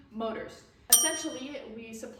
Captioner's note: ding sound effect